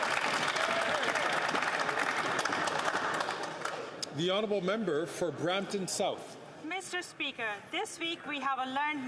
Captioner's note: some Applause